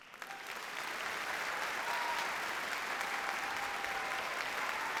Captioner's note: audience cheers and applauds